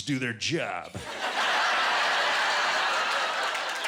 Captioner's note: laughter